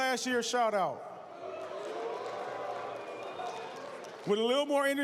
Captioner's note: cheers, applause